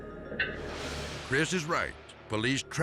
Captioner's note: dramatic air whoosh